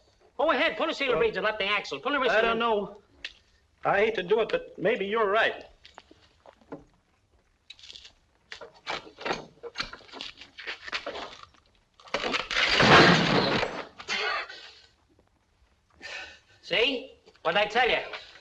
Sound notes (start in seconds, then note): 12.1 clattering